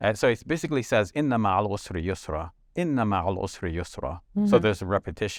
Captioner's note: speaks in foreign language